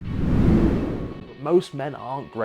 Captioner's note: whoosh